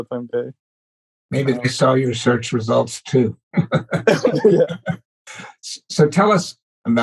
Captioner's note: laughs